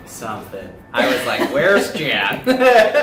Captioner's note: laughs